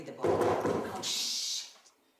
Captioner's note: knocking